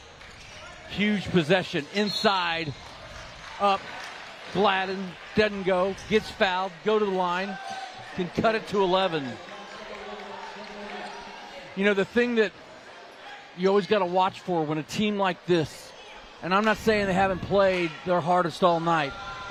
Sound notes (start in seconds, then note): 5.3 applause